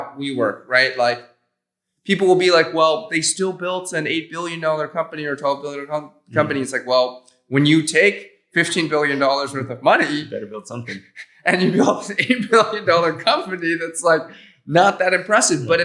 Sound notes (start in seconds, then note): 11.9 chuckles